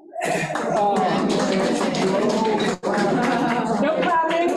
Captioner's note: audience clapping